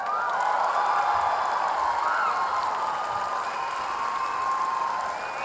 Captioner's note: audience cheering